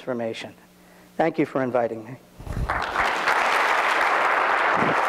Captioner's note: audience claps